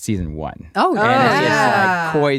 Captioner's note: cheering